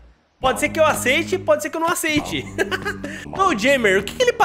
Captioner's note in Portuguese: risos